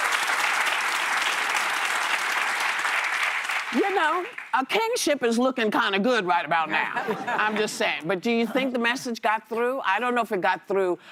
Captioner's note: applause